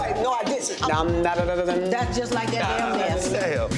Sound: Momma Dee speaking gibberish

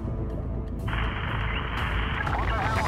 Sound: Static

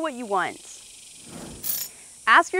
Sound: screen whooshing

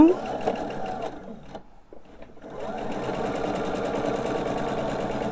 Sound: sewing machine whirring

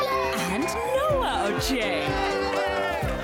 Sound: cheering; crowd laughing

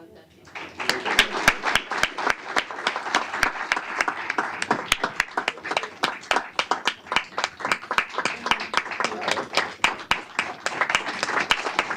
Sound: applause

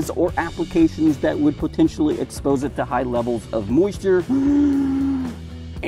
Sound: large gasping breath

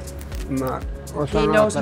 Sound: speaking in a foreign language

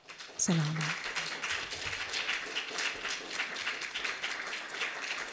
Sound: applause

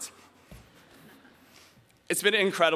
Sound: audience quietly chuckling

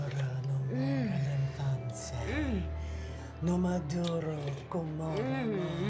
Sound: Ola chants in foreign language; Makayla slurps food and makes relishing noises

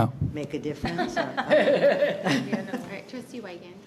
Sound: people laughing

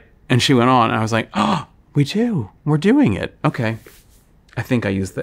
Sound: gasps

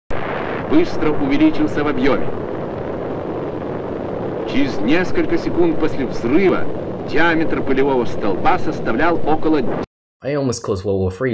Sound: speaking Russian

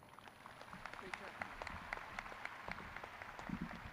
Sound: audience clapping

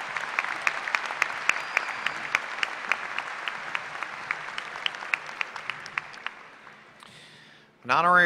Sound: applause

